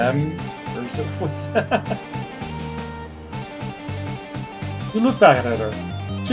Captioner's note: laughs